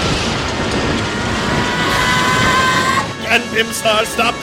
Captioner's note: flapping wings, followed by bestial panting; sound of an crashing missile; rapidly approaching scream of rage; flapping wings, followed by bestial panting